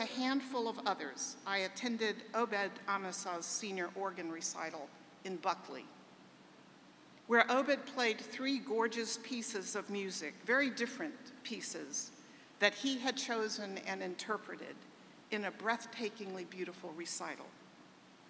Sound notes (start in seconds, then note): none